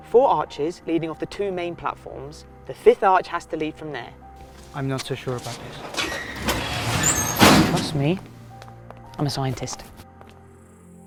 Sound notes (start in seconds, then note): 6.4 doors squeaking and thudding